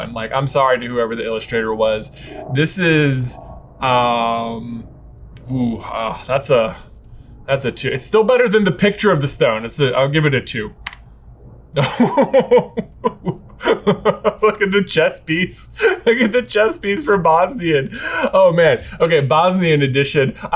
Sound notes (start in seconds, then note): 11.7 laughing